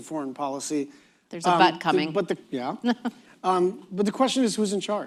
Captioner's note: laughs